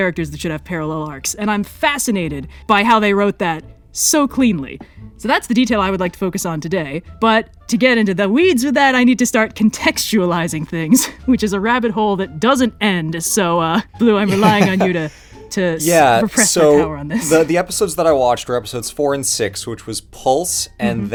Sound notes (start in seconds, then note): 14.2 laughs